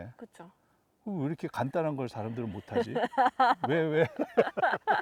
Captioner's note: laugh